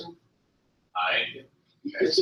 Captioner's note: multiple voices